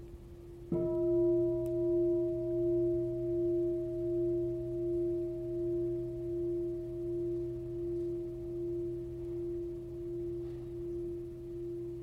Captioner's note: bell sounds